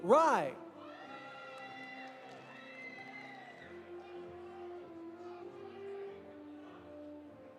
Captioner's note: audience cheering; audience applauding